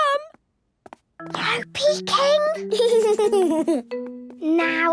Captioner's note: whispering; Danny giggling